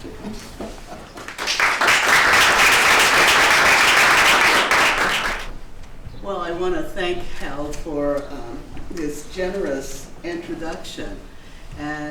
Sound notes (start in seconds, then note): 1.1 applause